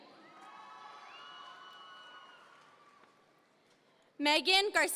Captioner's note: audience members cheer